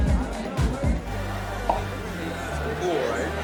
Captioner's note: mouth popping